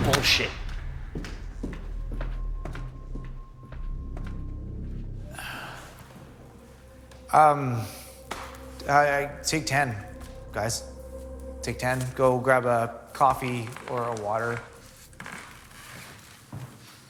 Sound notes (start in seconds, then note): 2.0 footsteps